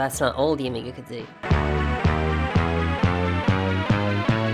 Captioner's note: sound distorts